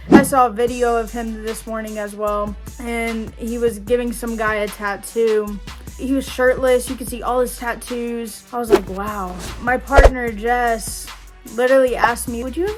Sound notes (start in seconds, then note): 8.7 air whooshes